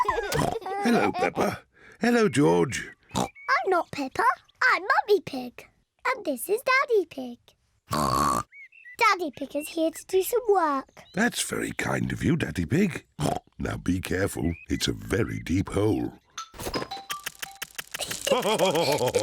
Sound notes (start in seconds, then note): 3.1 oinks; 7.9 oinks; 13.2 oinks; 18.0 both laughing